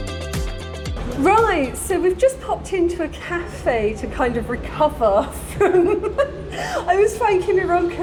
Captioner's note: laughing